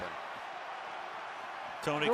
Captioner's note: booing